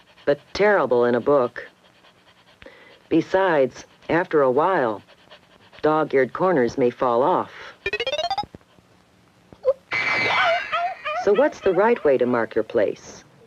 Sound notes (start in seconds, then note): 7.8 bizarre sound effect; 10.0 yipping in pain